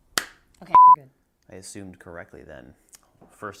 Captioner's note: beep